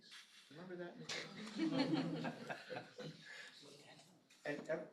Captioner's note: laughter